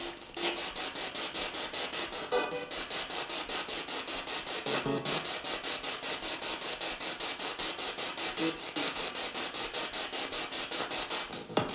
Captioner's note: sound of the Spirit Box in the background